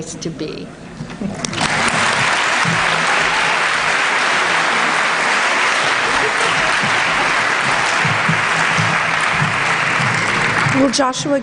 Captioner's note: applause